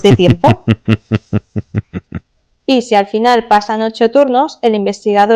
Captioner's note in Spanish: risas